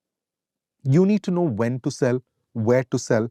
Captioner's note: none